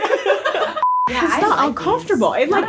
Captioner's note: all laugh; beep